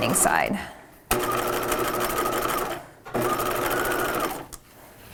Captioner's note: machine whirring